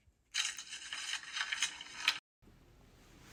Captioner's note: paper rustles